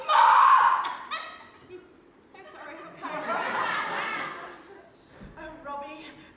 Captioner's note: audience laughs